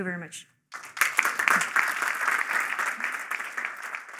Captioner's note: applause